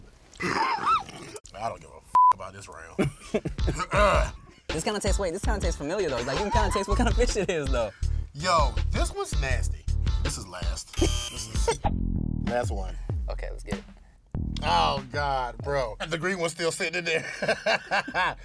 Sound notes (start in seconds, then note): 2.1 beep; 10.9 buzzer beeps; 17.2 laughs